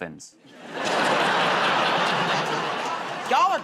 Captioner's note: laughter